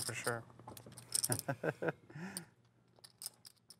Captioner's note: laughs